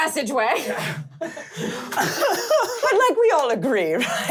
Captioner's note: laughing